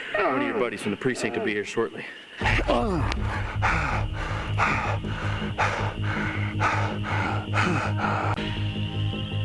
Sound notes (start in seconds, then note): 2.5 Shepherd panting; 6.6 pensive music